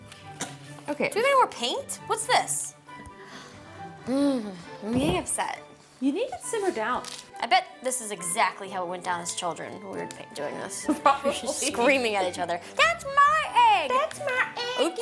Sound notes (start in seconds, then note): 4.2 groans; 11.5 laughs